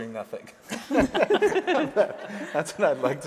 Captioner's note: audience laughing